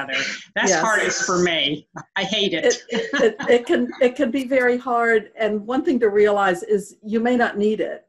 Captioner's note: laughter